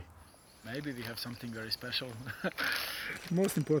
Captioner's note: chuckles